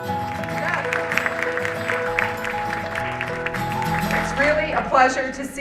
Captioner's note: gentle instrumental music; audience applauding